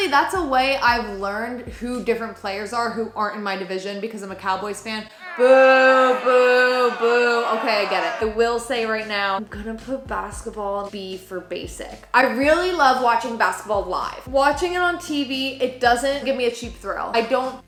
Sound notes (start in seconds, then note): 5.1 crowd